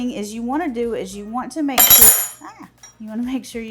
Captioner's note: knife clangs